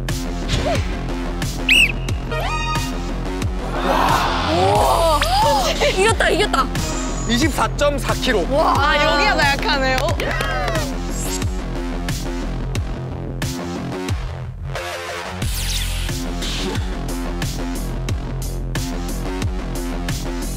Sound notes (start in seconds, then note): 9.4 applause